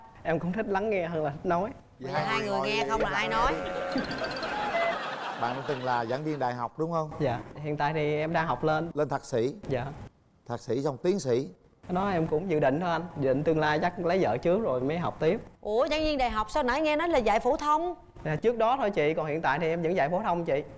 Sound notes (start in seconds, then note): 2.6 laughing